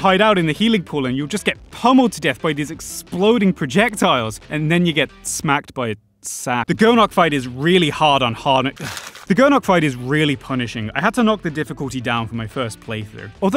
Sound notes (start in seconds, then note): 8.7 crumples paper